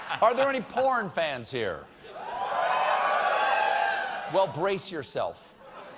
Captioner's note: one or two cheering